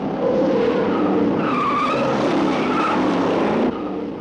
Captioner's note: tires screeching; car engines revving